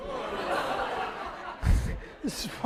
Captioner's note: laughter